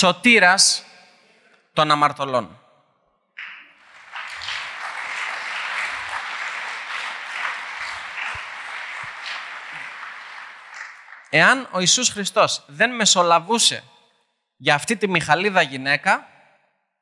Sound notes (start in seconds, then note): 3.4 applause